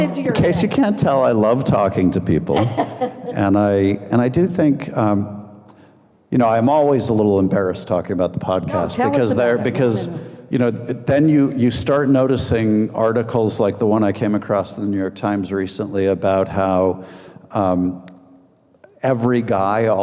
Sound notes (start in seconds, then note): 2.4 laughing